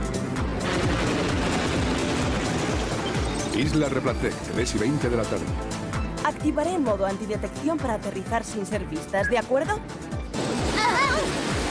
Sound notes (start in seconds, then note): 0.7 chopper blades whirring; 10.7 girls shriek